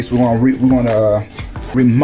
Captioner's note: door squeaking